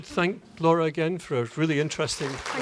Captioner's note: background Applause; applause